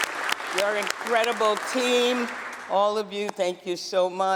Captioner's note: applause